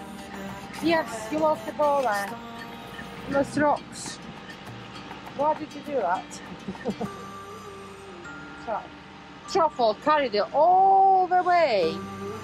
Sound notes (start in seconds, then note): 6.5 laughs